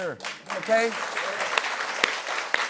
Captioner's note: applause